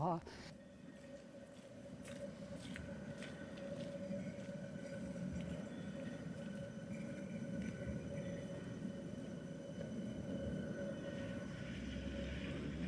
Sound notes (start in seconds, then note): 0.0 city sounds